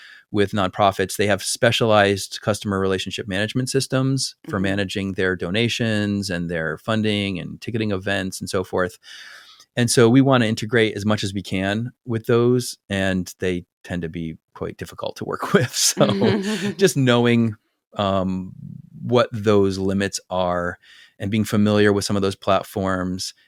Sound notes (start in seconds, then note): 15.6 laugh